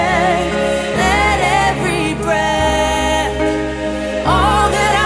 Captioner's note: breath